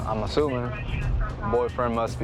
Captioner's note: radio noise